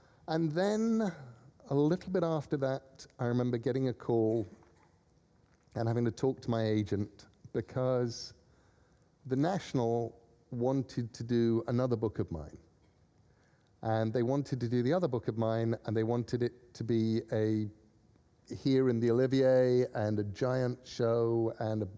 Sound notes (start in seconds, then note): none